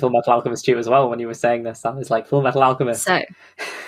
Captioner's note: laughs